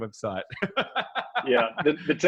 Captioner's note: laughs